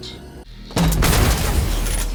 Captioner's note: thonk-BOOSH